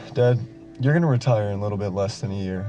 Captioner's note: sighs